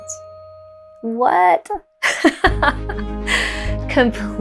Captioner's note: laughs